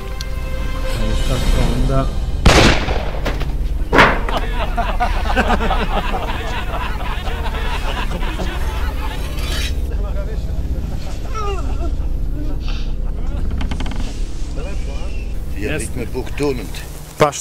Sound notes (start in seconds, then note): 2.4 shotgun fired